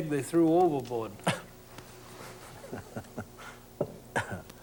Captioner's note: laughs